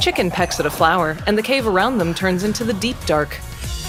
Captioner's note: Sculk Shrieker goes off